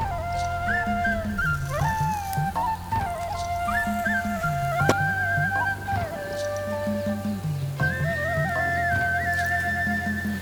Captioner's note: pounded